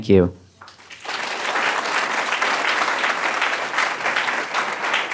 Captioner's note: applause